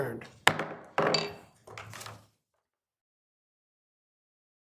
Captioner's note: gravel bangs